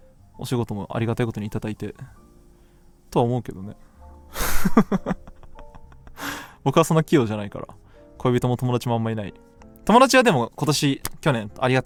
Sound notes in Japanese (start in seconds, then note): 4.6 笑い